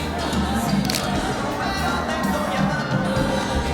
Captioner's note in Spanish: Clic de la cámara